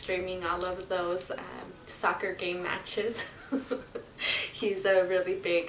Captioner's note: laughs